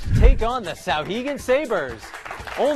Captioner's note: applause